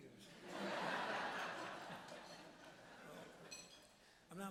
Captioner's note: audience laughs